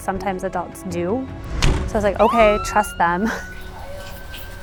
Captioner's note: siren